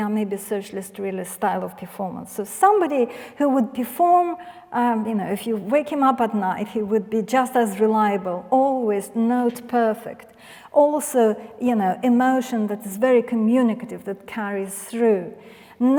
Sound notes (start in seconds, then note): none